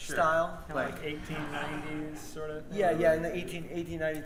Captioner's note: audience laughs